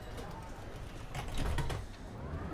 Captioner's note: train door closes